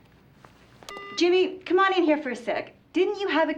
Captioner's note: beeps